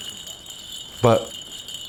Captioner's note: bells jingling